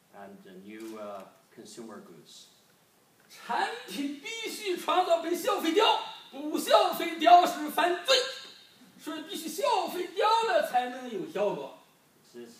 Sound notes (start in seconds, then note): 3.8 speaking foreign language